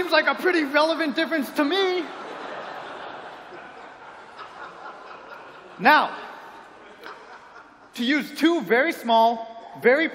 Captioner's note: laughter